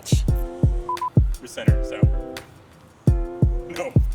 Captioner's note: beeping; laughs